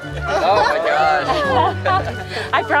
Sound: laughing

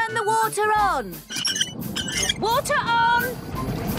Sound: wheel squeaking

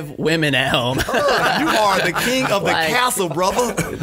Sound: scattered laughs

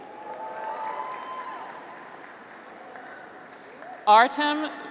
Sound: graduates cheer

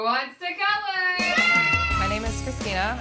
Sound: kids shout

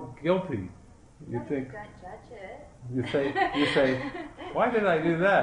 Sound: laughter

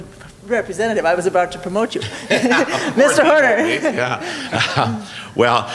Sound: laughs

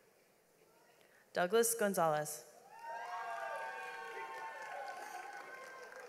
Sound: audience applauds

